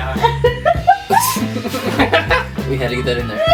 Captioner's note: crew member laughing